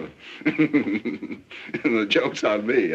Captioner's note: laughing